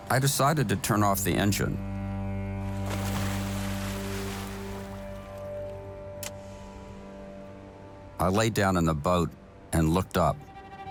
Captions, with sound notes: I decided to turn off the engine. (anchor splashes) (switch clicks) I lay down in the boat and looked up.